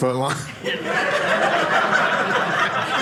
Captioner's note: audience laughing